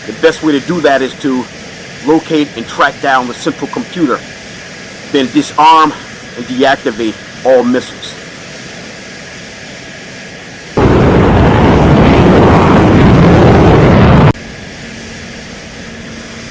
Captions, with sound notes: The best way to do that is to locate and track down the simple computer. Then disarm and deactivate all missiles. (plane engine roaring)